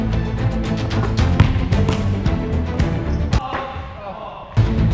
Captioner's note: upbeat orchestral music; ball bounces; upbeat orchestral music